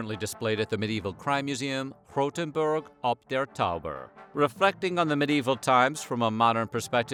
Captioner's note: non-english